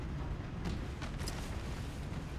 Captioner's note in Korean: ? 낙하산 소리